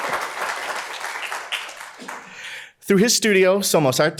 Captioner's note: applause; applause continues